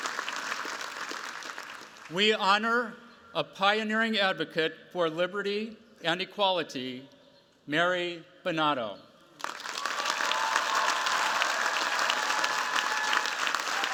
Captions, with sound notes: We honor a pioneering advocate for liberty and equality, Mary Bonauto. [CHEERS, APPLAUSE]